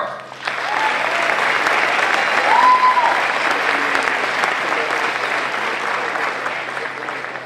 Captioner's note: applause